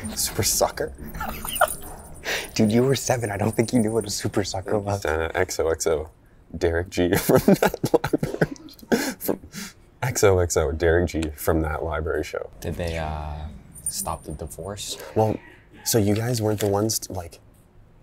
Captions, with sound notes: “Super Sucker?” Dude, you were seven, I don't think you knew what a super sucker was. “XOXO Derek G,” “from That Library Sh--” *clears throat* “From--” “XOXO Derek G, from That Library Show.” Did they uh, stop the divorce, or? Well, so you guys weren't the ones like...